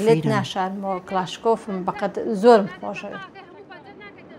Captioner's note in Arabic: الصوت المنطوق الكردي